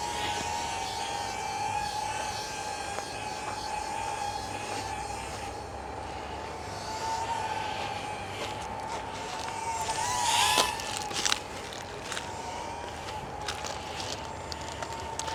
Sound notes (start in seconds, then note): 6.6 drone whirring